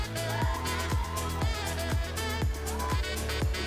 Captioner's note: Girls cheering for Tonis; pop, playful music continues